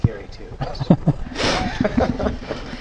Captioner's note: laugh